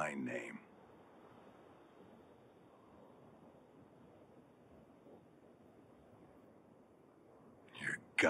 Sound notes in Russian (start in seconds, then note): 1.7 жуткие завывания ветра